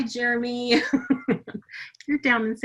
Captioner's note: laughing